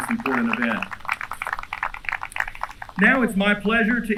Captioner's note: applause